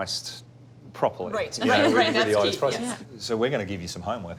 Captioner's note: all laugh